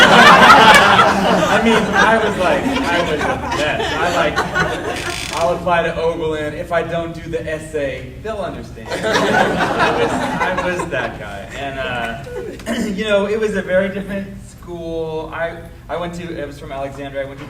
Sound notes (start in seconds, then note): 0.0 audience laughing; 3.1 laughing drowns out speaker; 8.8 audience laughing